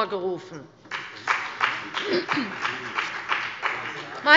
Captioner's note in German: Beifall bei dem BÜNDNIS 90/DIE GRÜNEN und der CDU